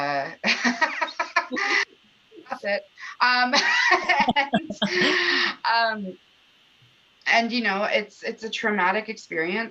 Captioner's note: laughter